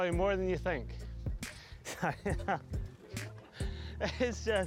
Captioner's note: laughing